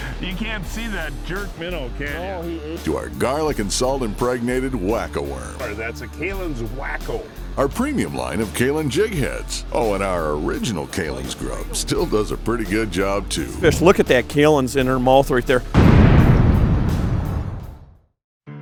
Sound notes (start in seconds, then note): 3.3 voiceover; 7.7 voiceover; 15.7 loud boom